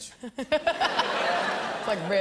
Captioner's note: laughter